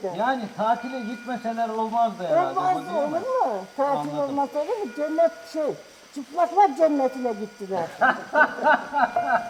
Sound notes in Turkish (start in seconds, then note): 7.9 Gülüyor